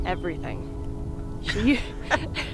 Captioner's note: the two women laugh lightly